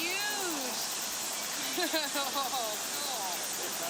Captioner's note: laughter